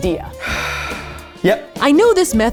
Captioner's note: sighs